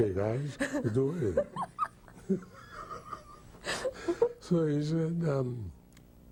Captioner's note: laughing